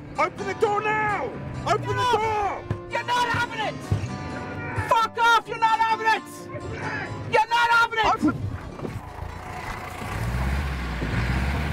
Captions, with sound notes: Open the door. (shouting)